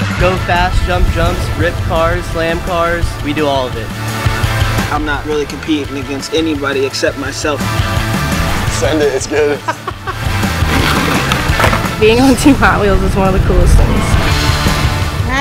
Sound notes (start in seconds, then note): 9.2 laughter